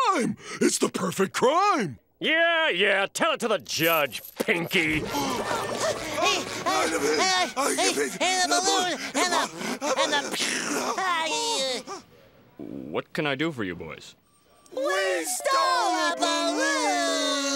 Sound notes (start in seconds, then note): 6.4 panting; 7.1 stammering